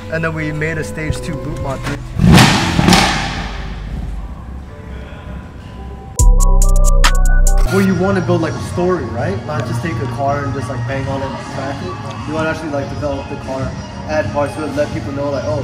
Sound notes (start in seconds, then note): 1.9 engine revs; 6.4 chill hip hop music